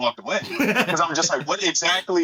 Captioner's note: laughing